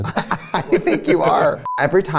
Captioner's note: laughing